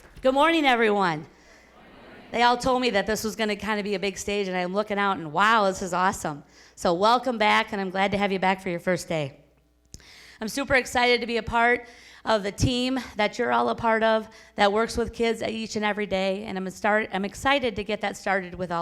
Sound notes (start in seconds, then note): 1.7 crowd